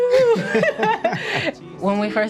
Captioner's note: laughing